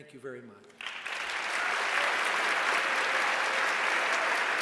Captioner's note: cheers